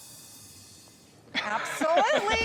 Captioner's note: laughs